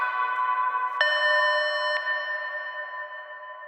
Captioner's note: intercom beeps